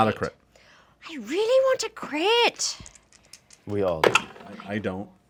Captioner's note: dice roll